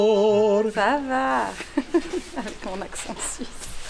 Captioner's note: laughs